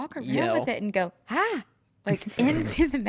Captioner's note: laughs